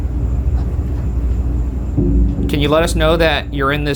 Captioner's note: item mysteriously tapping